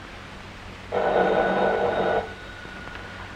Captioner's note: phone rings